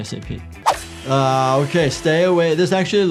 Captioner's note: saw buzzes